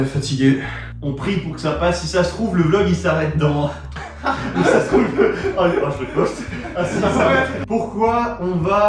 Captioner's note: haha